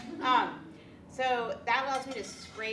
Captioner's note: women laugh